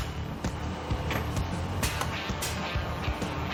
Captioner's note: machine whirring; exciting music